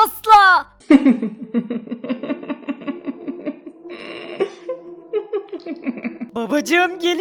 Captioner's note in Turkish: Gülme sesi